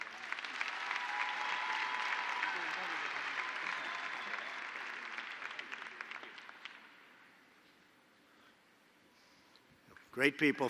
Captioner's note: applause